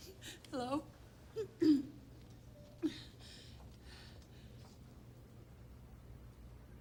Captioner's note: clears throat